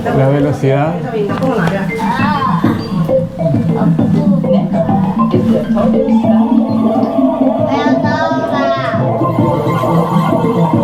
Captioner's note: laughs